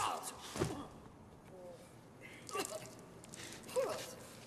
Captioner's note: coughs